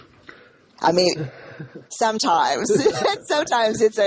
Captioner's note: laughs